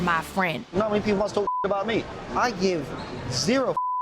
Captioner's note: beep; beeps